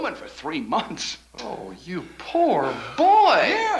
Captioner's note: chuckles